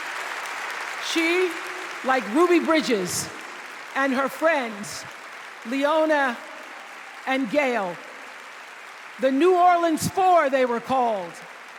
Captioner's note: applause